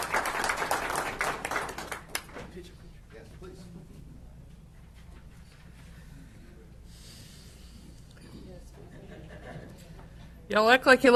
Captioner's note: applause